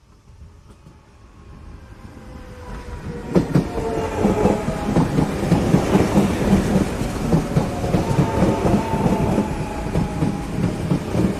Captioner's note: rhythmic sounds of electric train pulling into station